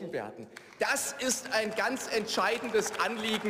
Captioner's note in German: Beifall